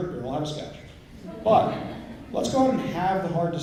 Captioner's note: laughter